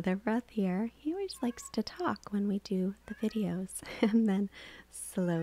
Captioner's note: laughs